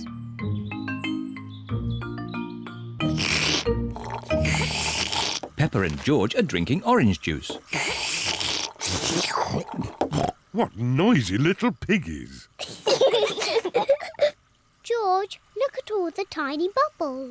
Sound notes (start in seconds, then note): 3.0 both slurping; 7.4 both slurping; 12.7 both laugh